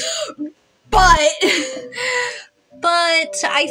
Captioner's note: laugh; laugh